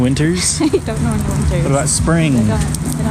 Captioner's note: laughing